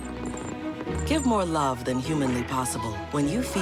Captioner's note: whining, purring